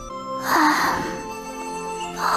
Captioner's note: sigh